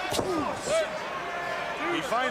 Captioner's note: crowd chatter